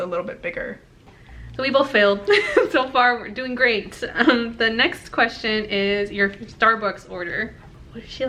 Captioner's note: laughs